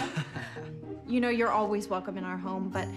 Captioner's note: forced chuckled